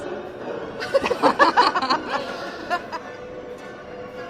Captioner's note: laughing